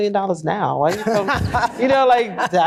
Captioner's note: laughter